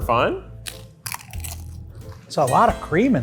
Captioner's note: chips crunching